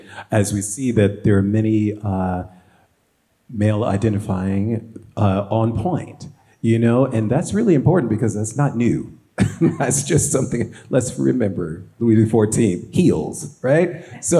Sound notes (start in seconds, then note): 9.4 laughs